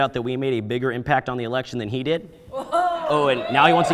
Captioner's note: audience member exclaiming